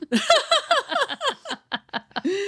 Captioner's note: laughing